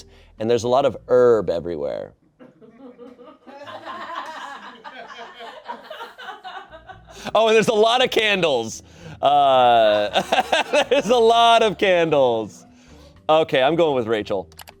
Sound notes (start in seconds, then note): 2.5 audience laughing; 9.3 laughs; 14.6 triumphant music